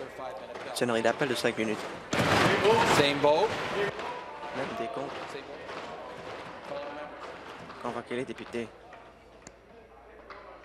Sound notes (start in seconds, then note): 5.0 tapping on desks